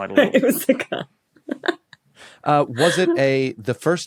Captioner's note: giggles